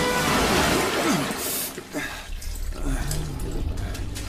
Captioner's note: gasping